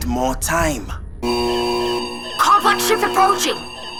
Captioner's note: alarm blaring